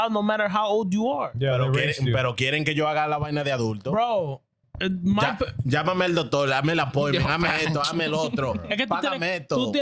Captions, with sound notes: no matter how old you are. (Speaking In Foreign Language)